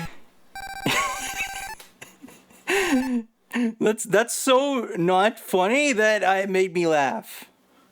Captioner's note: laughs